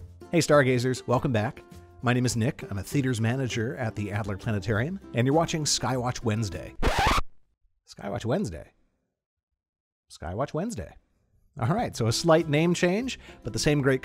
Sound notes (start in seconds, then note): 6.8 record scratches